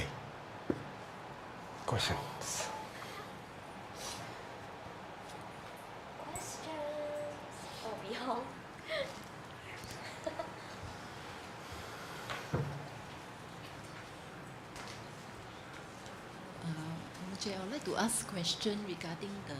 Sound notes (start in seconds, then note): 8.7 murmurs; 9.8 chuckles